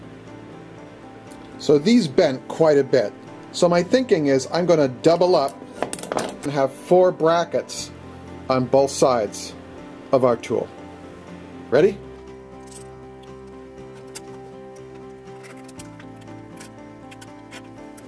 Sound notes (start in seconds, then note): 12.9 metal scraping